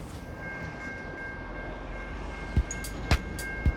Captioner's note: railroad crossing bell ringing; upbeat music